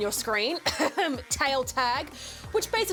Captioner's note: coughs